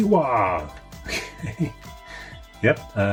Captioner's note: laughing